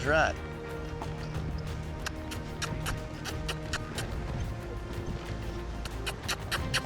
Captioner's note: makes squeaky sound